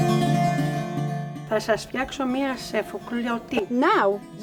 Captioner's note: speaking Greek